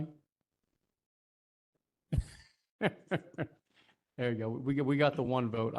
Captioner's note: laugh